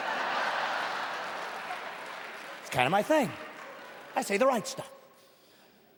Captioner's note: laughing